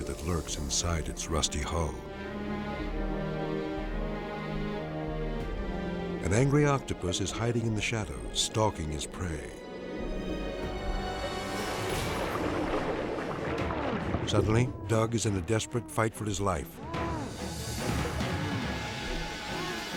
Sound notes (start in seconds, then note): 2.3 somber music; 10.2 water bubbling; 16.5 grunting